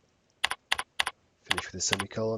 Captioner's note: mouse clicking